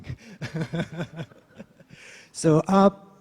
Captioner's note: laughs